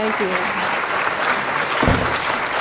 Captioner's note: applause